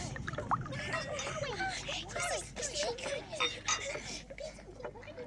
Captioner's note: indistinct chatter